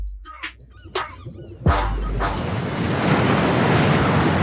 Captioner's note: water whooshes